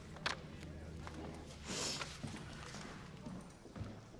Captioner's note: clatters on desk; sniffs